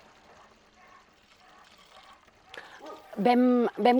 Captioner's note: milk falling into the bucket